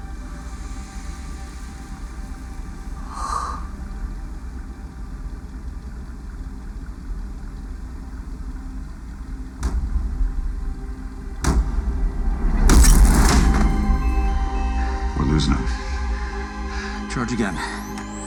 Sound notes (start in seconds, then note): 9.6 loud thuds; 12.6 glass cracks